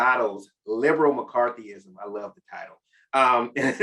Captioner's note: chuckles